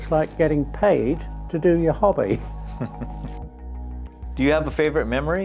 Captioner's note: chuckling